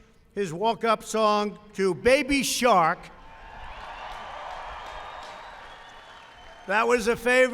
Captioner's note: applause